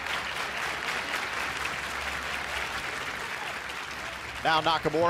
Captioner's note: clapping